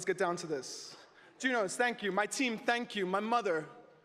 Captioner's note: speaking alternate language